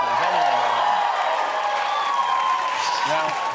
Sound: applause

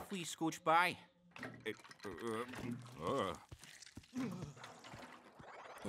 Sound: grunting

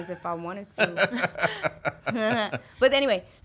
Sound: laughing

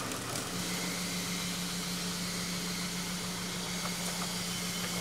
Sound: telehandler whirling

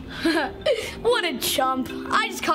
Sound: chuckles

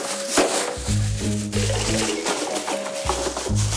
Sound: rummaging

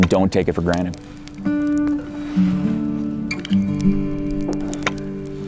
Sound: fire crackling

